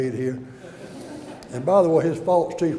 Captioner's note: audience laughter